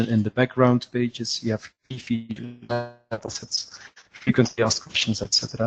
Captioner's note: distortion interferes with audio